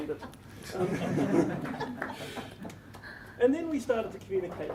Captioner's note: laughter